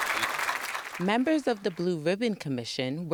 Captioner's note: applause